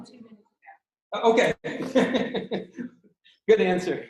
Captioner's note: laughter